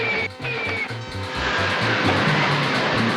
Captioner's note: zooming